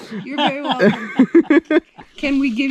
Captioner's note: laughing